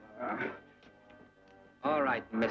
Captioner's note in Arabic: يانسي يتأوه